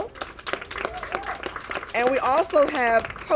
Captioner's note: applause